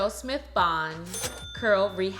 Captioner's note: bell dinging